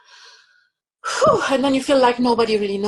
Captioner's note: sighs loudly